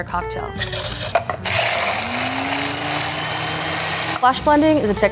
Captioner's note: blender whirring